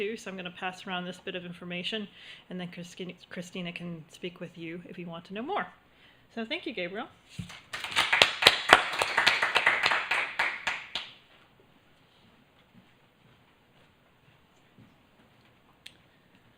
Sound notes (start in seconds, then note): 7.4 applause